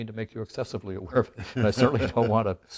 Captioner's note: both laugh